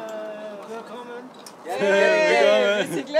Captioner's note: in German